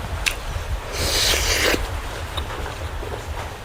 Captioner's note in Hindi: नाक से की जाने वाली आवाज़